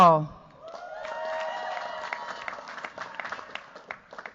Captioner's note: cheers, applause